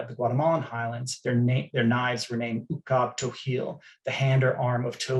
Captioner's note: non-english